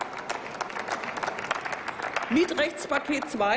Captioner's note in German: Applaus